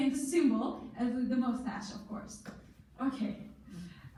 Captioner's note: in foreign language